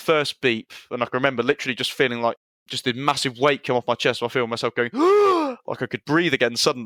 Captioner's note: gasp